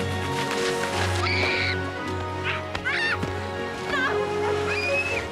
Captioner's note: splashing; Rose screaming